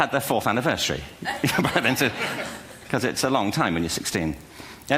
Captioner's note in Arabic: ضحك